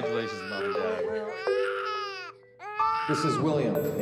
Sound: baby crying

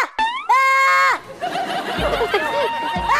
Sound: bursts Out Laughing

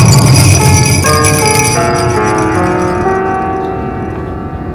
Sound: sound of the bell

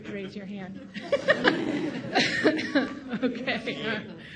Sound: audience laughing

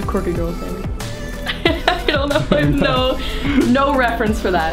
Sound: laughing

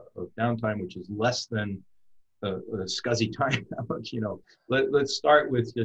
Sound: laughs

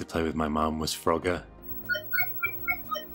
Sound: bloop bleep bloop bleep bloop bleep ding ding ding

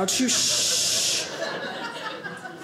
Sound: audience laughing

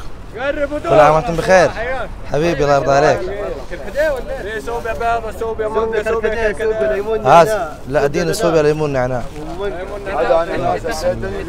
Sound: Arabic

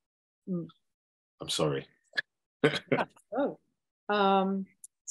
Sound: laughing

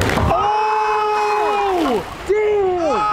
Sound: cheering

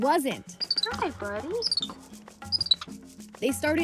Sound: monkey trilling

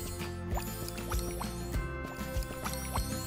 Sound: gurgling

